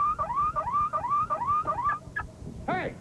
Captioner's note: alarm; turns off alarm